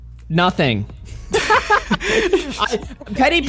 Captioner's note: laughs